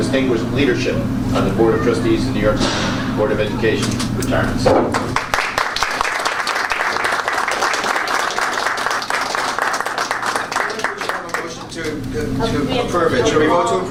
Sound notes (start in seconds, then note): 4.9 applause